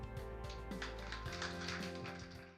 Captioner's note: applause